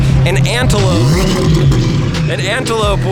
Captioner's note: car engine